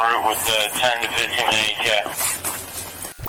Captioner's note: radio chatter